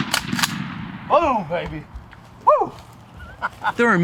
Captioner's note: laughter